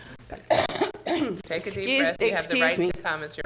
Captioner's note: clears throat